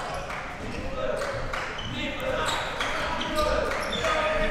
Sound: crowd cheering

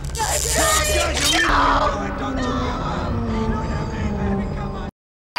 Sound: screaming

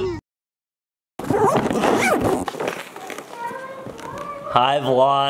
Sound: suitcase zipper clacking

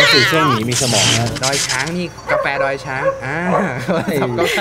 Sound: phone is ringing

